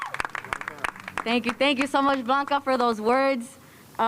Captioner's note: cheers and applause